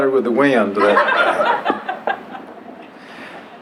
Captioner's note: laughter